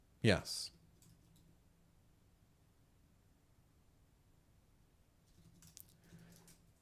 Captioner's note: silence